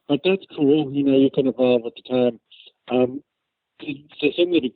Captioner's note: laughs